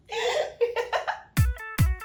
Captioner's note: giggles; upbeat music